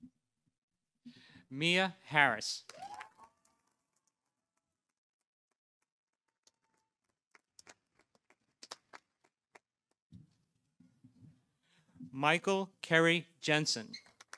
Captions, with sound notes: Mia Harris. -(audience cheering) -(audience applauding) Michael Kerry Jensen.